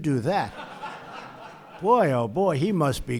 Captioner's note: laughter